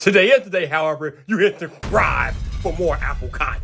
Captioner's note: thunderous crash